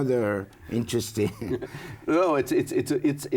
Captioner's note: laughs